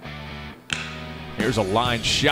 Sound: crack of the bat

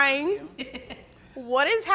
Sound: laughing

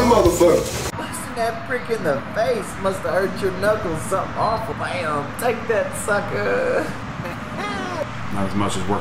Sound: laughs

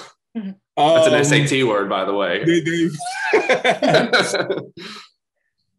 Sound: laughs

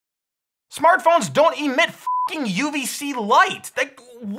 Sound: beep

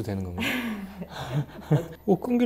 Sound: hehehe

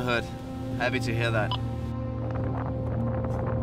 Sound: radio beeps

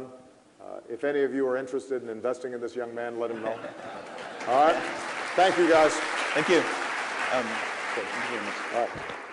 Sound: laughter

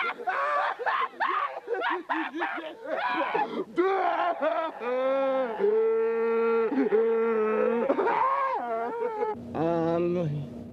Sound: maniacal laughter

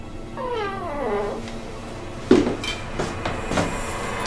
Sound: door creaking

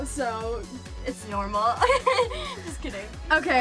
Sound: laughs

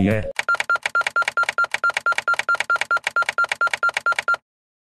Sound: button clicking sounds

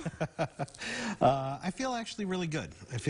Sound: chuckling

